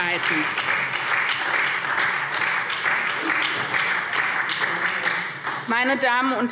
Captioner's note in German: Beifall SPD